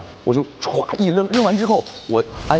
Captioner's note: smashes the glass